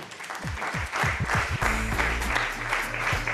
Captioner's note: applause